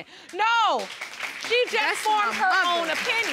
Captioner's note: audience applauding